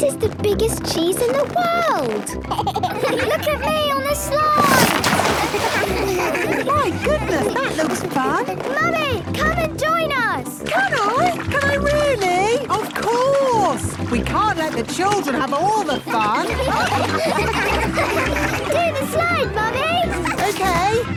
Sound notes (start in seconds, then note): 2.4 giggles; 15.9 all laughing